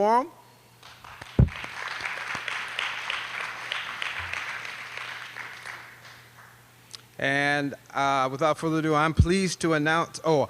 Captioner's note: applause